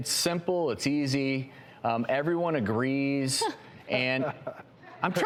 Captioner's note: laughter